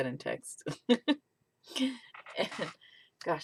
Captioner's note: laughs